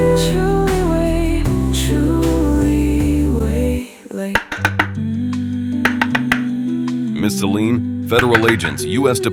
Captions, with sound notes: [loud knocking] Miss Selene, Federal Agents.